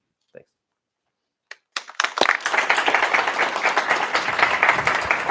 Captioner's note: applause